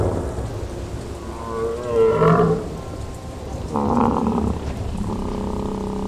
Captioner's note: camarasaurus bellows